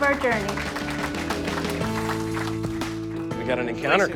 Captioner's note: applause